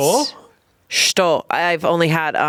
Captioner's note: speaking foreign language